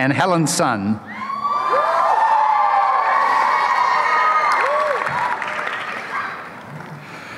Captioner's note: applause and cheering